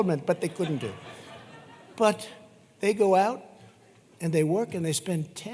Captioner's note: laughter